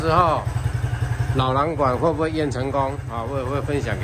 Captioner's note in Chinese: 排氣